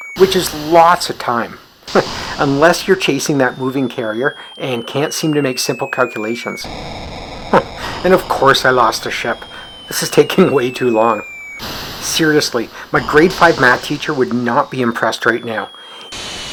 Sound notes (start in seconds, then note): 1.8 chuckles; 7.5 chuckles